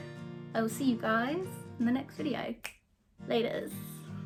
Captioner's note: clicks fingers